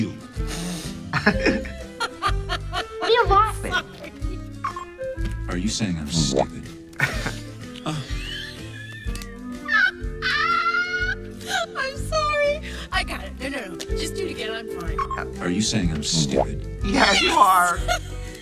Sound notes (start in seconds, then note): 1.1 laughs; 6.9 chuckles; 9.7 laughs